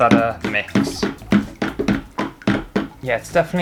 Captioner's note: spoon Bashing Off Bucket